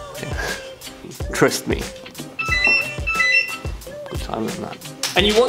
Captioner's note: telephone ringing sound